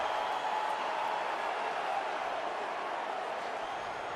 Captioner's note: crowd cheering